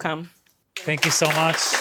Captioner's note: applause